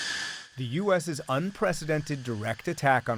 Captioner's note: voice-over